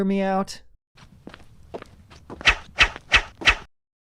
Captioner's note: brief footsteps and loud swing